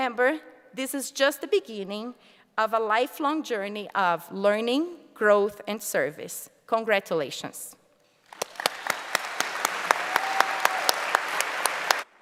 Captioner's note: applause